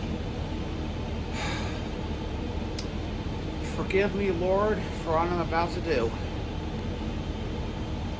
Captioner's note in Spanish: suspiros